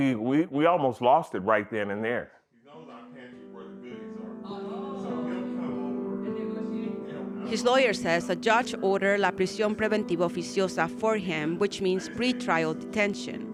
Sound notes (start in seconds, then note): 7.4 voiceover